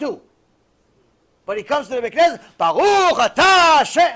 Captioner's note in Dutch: hebreeuws